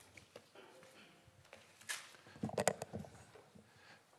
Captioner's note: keyboard Clacking